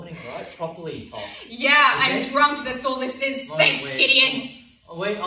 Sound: scoffs

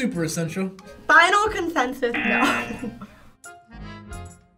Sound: buzzer rings; laughs; accordion music

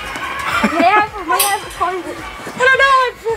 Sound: laughter

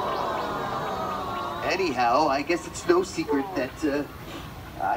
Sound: sniff

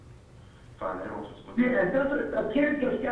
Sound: 911 operator speaking

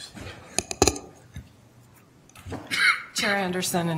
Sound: microphone clunking

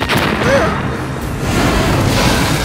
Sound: gasps; loud explosion; roaring

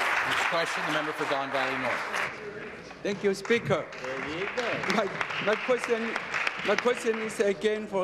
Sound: applause

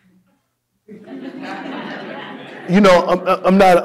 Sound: audience laughing

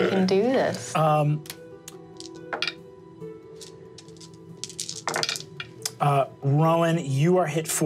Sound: dramatic instrumental music; dice tapping table

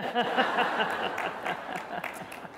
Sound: applause

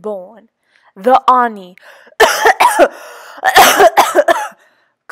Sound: coughs

